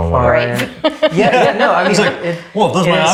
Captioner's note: laughs